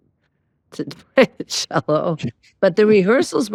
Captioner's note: laughing